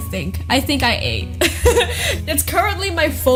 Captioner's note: laughs